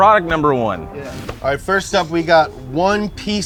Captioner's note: transition whooshes